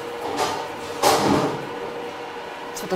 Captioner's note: clattering in the background